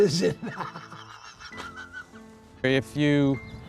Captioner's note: laughs